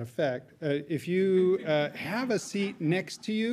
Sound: audience laughing

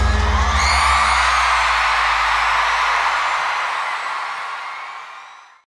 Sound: cheers and applause

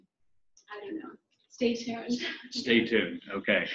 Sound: chuckles

